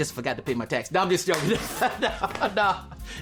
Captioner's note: laughing